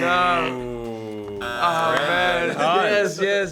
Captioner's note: imitates buzzer; buzzer buzzes